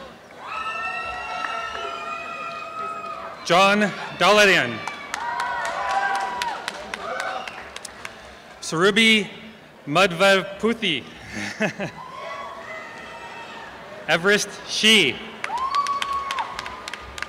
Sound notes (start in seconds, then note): 0.4 applause and cheering; 6.1 applause and cheering; 15.4 applause